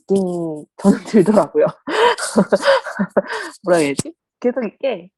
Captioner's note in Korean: 웃음